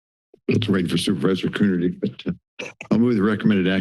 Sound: silence; laughs

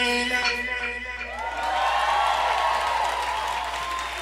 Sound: audience cheering

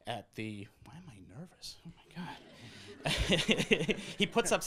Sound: laughs

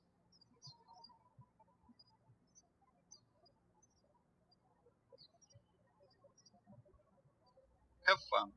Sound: birds chirping

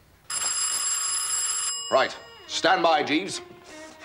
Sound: doorbell

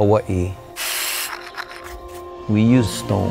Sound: tools rasping

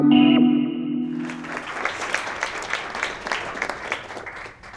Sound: applause

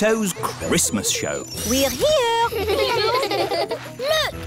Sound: children giggling

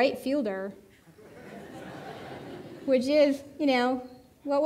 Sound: audience laughing

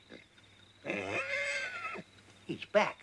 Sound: horse neighs

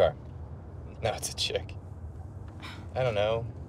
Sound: scoffs

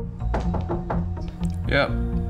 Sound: light suspenseful music; door thudding

